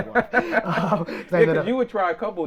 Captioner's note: both laughing